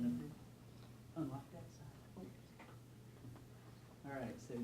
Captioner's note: distant talking